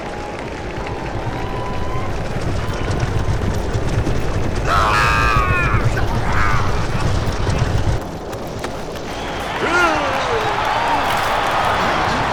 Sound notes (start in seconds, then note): 4.6 צורח; 8.9 תשואות